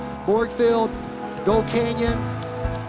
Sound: applause

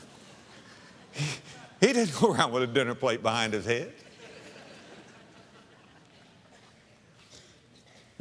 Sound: audience laughter; audience laughter

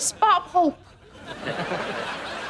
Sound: chuckles

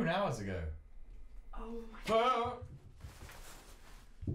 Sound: none

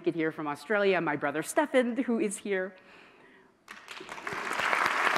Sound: applause

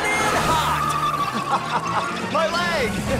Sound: laughing

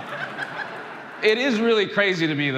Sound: Jon laughing

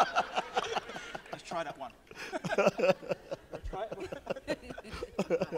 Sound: laughs; laughs

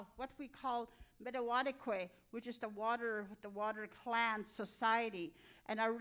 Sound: speaking in Cree

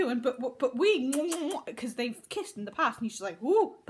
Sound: kissing sounds

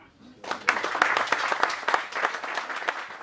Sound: applause

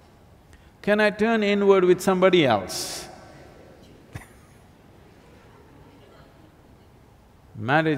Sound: laughs

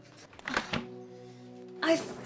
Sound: drawer opens

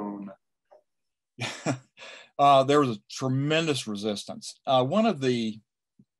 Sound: chuckles

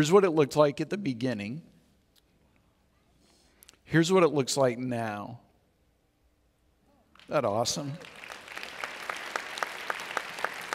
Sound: audience Cheers

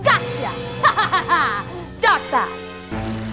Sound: evilly laughs

